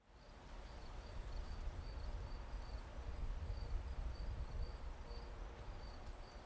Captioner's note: crickets chirping; wind blowing